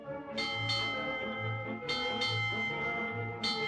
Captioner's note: bell clanging